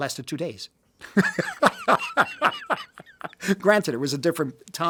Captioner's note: Martin laughs